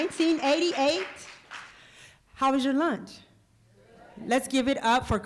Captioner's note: applause